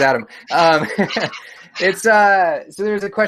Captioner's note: laughs